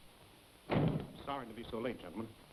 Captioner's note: door slams